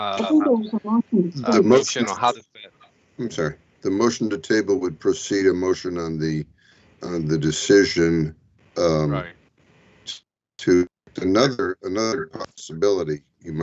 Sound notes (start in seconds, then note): 9.4 audio breaks up